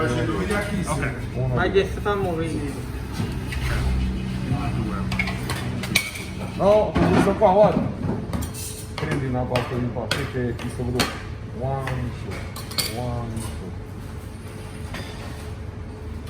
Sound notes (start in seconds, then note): 1.9 utensils clanking; 7.0 speaking in foreign language